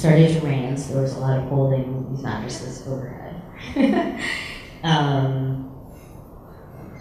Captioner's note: laughs